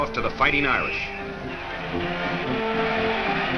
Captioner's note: whistle blows; crowd cheering